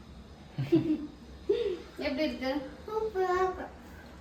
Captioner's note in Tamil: சிரிப்பு